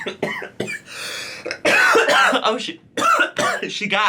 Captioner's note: coughing